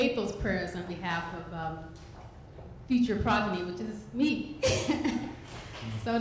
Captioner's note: laughing